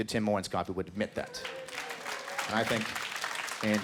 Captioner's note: scattered applause